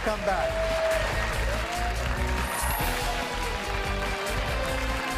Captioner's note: cheers and applause; dramatic music